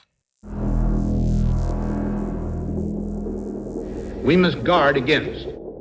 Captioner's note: electric sizzle